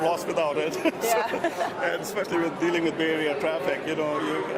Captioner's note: laughs